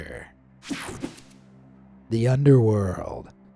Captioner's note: transition slashes